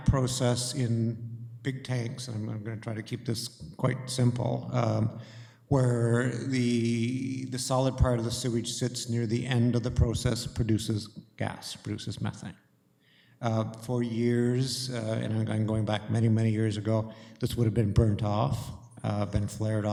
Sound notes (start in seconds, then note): none